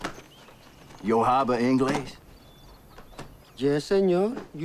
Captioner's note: Latrell speaking in foreign language